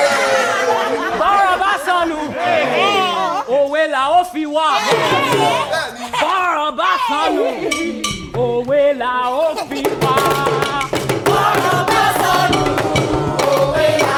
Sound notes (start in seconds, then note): 0.0 group cheering; 10.0 african music